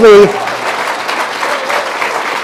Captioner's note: applause